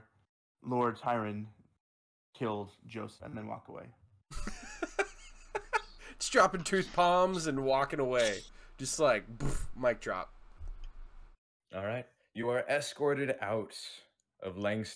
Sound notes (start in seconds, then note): 4.4 laughing; 9.1 mic dropping sound effect